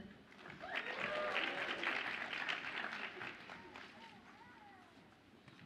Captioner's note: audience applauds and cheers